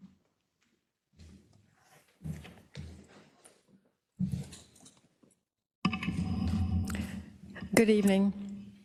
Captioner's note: laugh